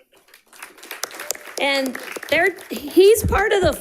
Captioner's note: audience applauding